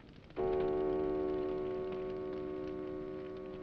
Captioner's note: clock chiming